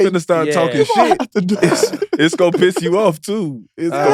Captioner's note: sighs